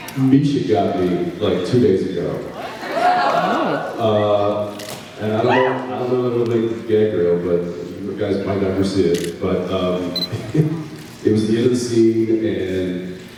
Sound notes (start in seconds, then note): 2.6 sounds of interest; 10.3 laughs